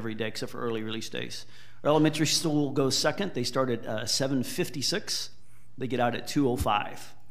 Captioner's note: none